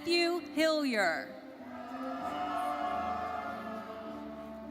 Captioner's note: audience cheering and applauding